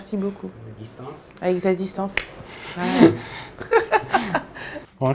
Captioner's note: laughs